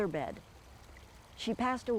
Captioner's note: water trickling